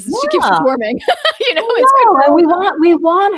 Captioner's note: laughs